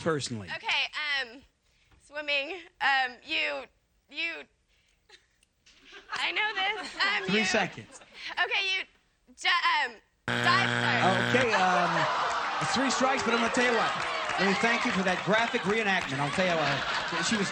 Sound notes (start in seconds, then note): 10.2 buzzer